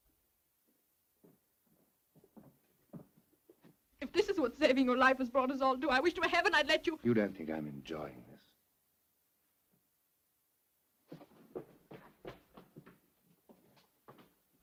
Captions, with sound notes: - If this is what saving your life has brought us all to, I wish to heaven I had let you-- - You don't think I'm enjoying this? (footsteps running)